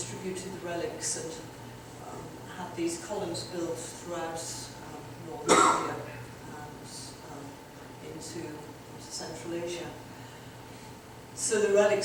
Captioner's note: audience member coughs